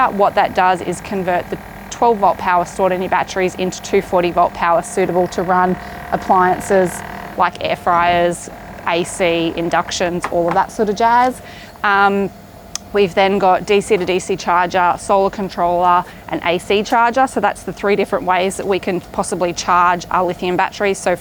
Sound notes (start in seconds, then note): 8.1 air fryer humming